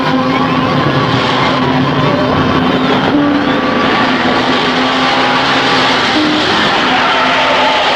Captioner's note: car revving; tires skidding